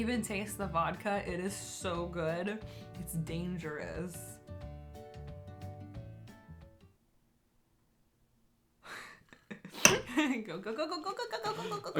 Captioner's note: laughing